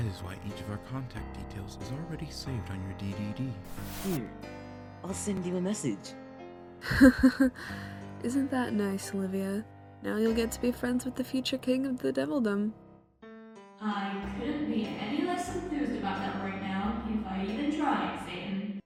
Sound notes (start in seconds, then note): 6.8 SATAN laughs